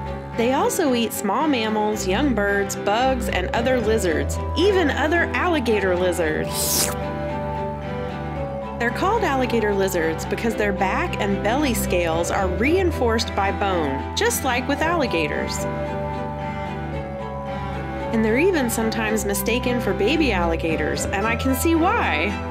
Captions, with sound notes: They also eat small mammals, young birds, bugs, and other lizards - even other alligator lizards! [Slurp] They're called alligator lizards because their back and belly scales are reinforced by bone, just like with alligators. And they're even sometimes mistaken for baby alligators, and I can see why!